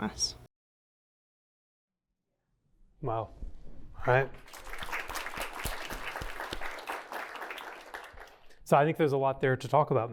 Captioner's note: applause